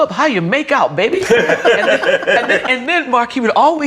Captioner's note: all laughing